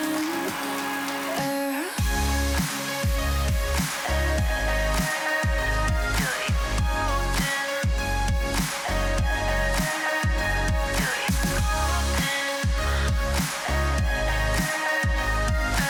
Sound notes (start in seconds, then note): 4.5 clap